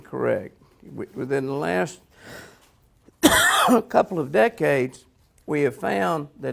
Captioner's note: coughs